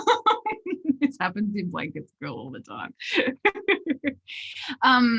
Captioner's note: laughs; laughs